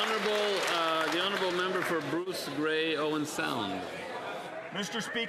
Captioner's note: some Applause